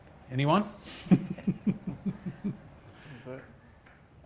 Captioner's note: laughing